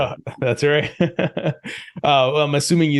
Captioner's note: laughs